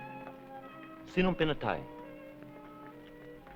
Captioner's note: non-english speech